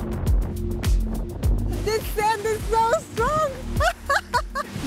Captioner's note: laughs